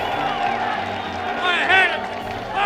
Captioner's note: cheering